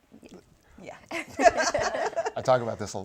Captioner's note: chuckling